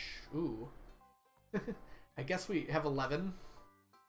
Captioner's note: laughs